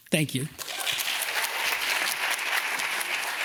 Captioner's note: audience applauds